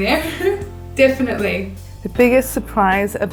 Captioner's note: laughing